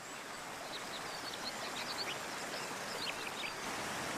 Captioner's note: water rushing, soft chirping